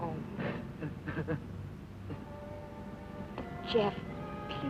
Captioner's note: Jeff crying